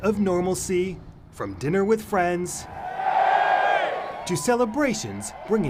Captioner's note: car driving